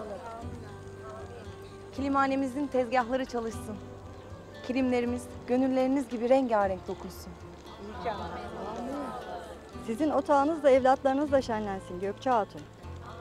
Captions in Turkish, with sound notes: Kilimhanemizin tezgâhları çalışsın. Kilimlerimiz, gönülleriniz gibi rengârenk dokunsun. (Hep bir ağızdan) İnşallah. Âmin. Sizin otağınız da evlatlarınızla şenlensin Gökçe Hatun.